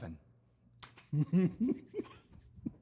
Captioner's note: giggling